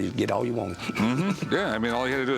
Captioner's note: laughs